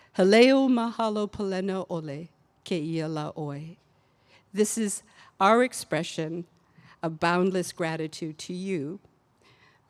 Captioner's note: speaking olelo Hawaii